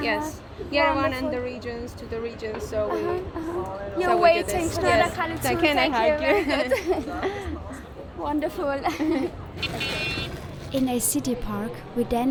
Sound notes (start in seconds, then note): 5.7 in Armenian; 9.6 toy car honks